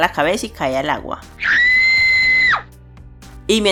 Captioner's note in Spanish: Grito